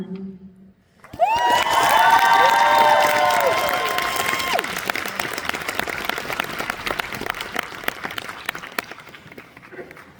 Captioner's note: applause